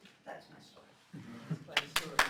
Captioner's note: applause